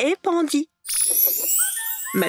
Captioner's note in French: bruit de baguette magique